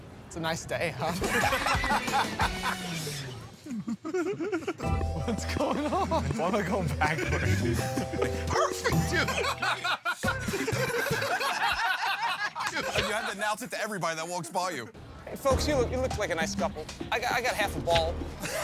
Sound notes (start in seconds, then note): 1.1 laughter; 10.2 laughter